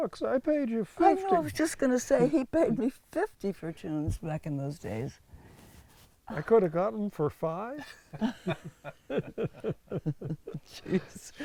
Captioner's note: laughs